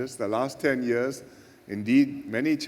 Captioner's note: none